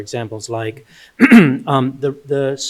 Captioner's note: clearing throat